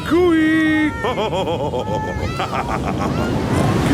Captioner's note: laughs